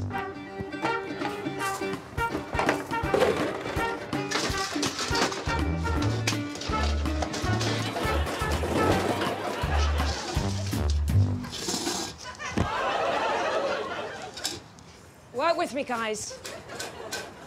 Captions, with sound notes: -[upbeat music] -[objects clattering] -[upbeat music] -[shelf rattling] -[objects clattering] -[audience laughing] -[shelf rattling] -[shelf thudding on ground] [audience laughing] Work with me, guys.